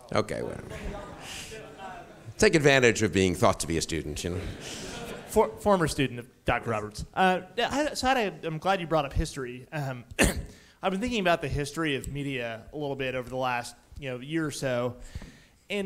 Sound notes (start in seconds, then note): 0.7 audience members muttering; 4.3 audience chuckles; 10.1 coughs